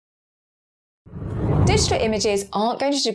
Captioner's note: whooshing air